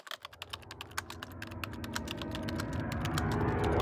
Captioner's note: typing